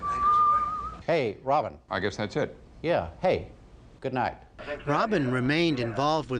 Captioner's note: whistling